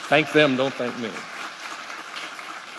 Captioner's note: applause